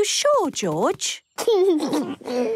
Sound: George snorts; giggles

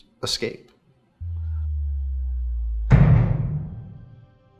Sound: slam

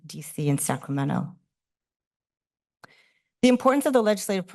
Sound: pause

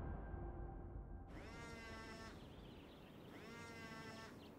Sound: phone vibrates

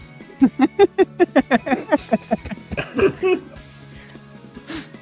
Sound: laughter

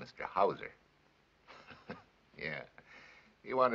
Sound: chuckles

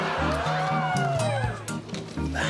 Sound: crowd exclaiming

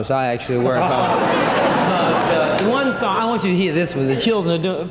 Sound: audience laughing

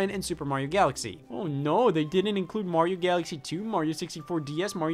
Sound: mocking

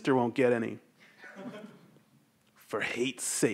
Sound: audience laughs

